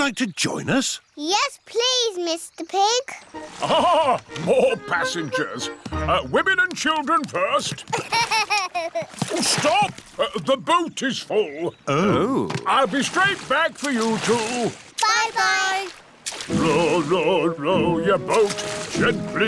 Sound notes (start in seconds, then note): 7.8 laughs